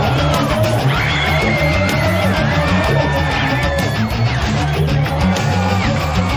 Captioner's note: screaming, shouting continue